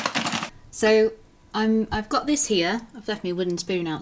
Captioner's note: packet rustling